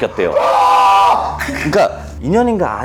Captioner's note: wailing